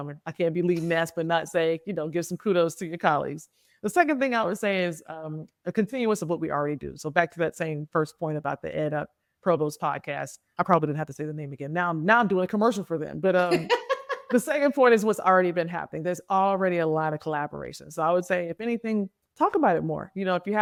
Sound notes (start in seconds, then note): 13.4 laughing